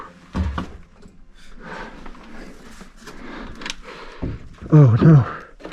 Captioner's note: clicking; shuffling